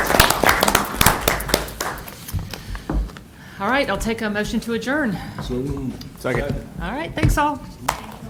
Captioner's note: applause